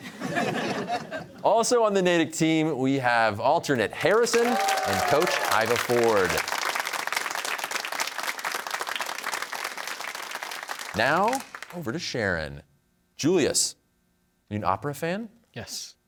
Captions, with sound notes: (laughter) Also on the Natick team, we have alternate Harrison and coach Ivor Ford. (cheers and applause) Now over to Sharon. Julius. Are you an opera fan? - Yes.